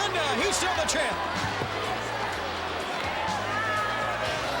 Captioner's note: crowd cheering